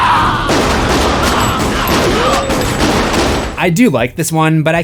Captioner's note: screams